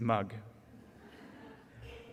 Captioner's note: audience laughter